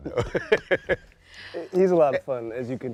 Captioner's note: laughs